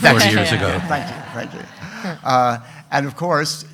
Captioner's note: everyone laughing